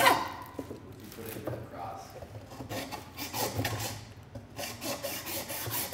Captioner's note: man speaking off mic